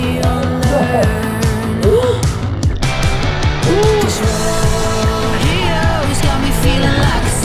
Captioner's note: laughing